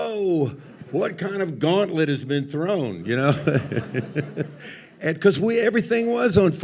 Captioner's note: chuckles